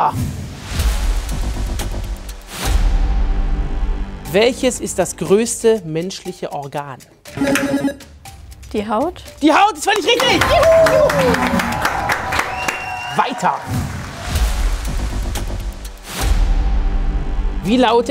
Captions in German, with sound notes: (Spannungsvolle Musik) (Buzzer) Die Haut? - Die Haut ist völlig richtig! (Jubel) Weiter. (Spannungsvolle Musik)